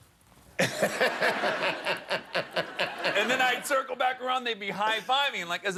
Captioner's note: laughter